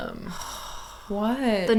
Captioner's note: sighing